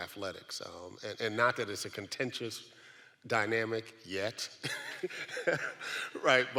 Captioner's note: laughs